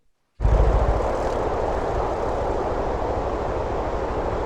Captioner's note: air whooshing